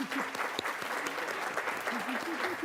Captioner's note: applause